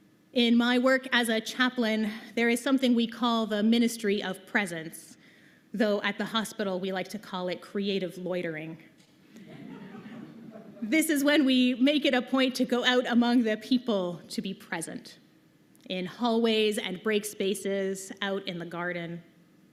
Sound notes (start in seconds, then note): 9.4 laughter